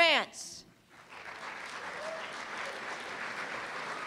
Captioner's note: applause